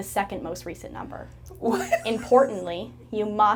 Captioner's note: laughing